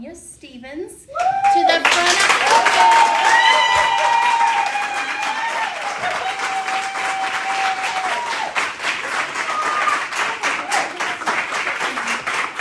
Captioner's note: cheering and applause